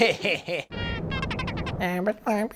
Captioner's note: sinister laughing; immitating beeping; droid beeping